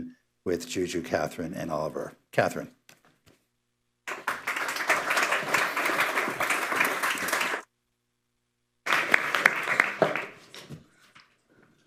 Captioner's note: applause